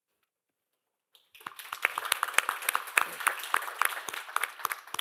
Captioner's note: applause